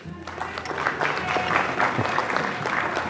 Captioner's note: applause